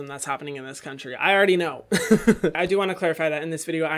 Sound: laughs

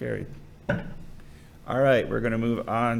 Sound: gavel thuds

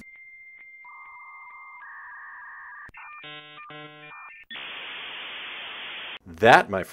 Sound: dial up connection sound

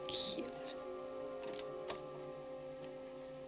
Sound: door opens

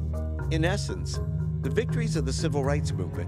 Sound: voiceover

